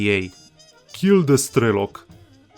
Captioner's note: thick Russian accent